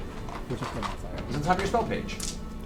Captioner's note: whispers